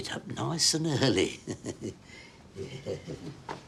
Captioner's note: chuckles